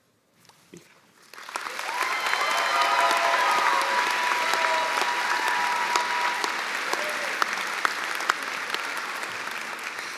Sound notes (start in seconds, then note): 1.3 cheers and applause